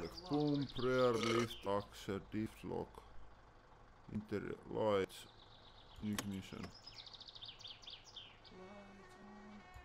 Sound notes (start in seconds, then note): 6.4 key clicks, no engine sound